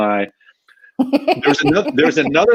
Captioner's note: laughing